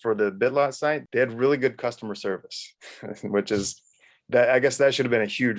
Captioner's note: laughs